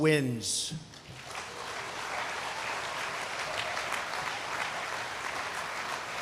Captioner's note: applause